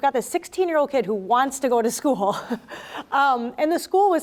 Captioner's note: chuckles